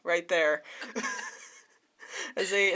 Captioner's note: laughs